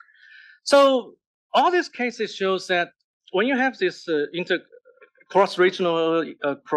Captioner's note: cough